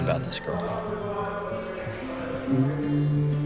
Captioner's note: students chattering